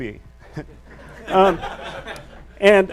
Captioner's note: audience laughs